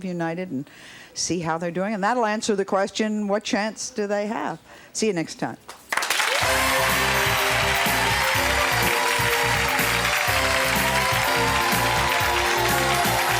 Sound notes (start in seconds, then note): 5.9 cheering; 6.0 lively music